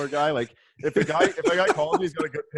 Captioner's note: laughs